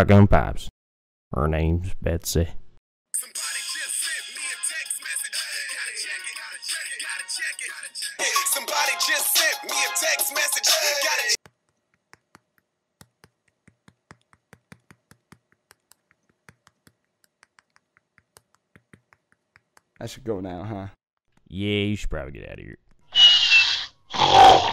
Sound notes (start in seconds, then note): 4.3 text message tone; 13.0 thumb tapping on screen; 17.2 thumb tapping on screen; 24.1 snoring